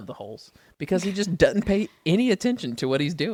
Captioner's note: laughs